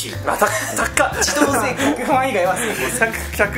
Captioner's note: laughs